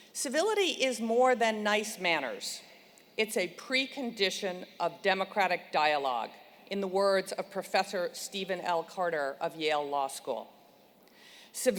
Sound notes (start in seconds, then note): none